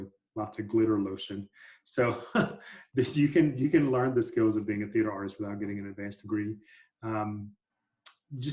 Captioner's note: laughter